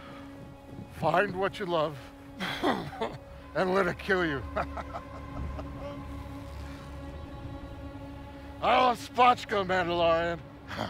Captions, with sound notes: - Find what you love and let it kill you. (laughing) I love spotchka, Mandalorian.